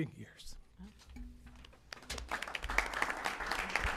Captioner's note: applause